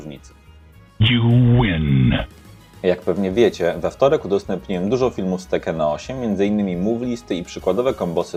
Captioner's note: speaks polish